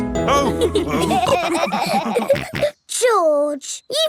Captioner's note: all laughing